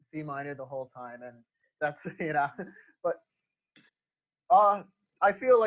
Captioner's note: laughs